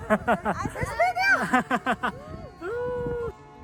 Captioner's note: haha